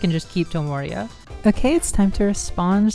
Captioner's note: remote click